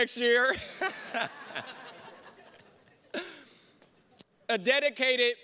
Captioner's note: everybody laughing